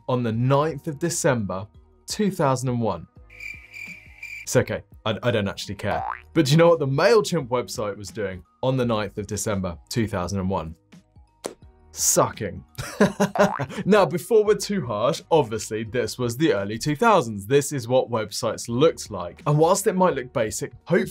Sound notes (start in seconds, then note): 3.3 crickets chirping; 12.8 laughs